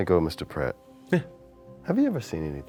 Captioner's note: Prett grunts in acknowledgement